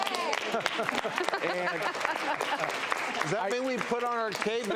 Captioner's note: applause